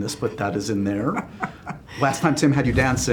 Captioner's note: laughs